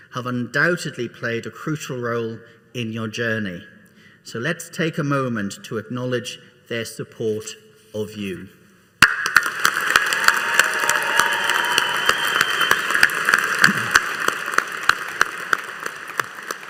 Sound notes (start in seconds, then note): 9.6 all applauding and cheering